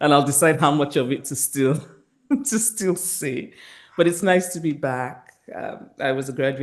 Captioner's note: chuckles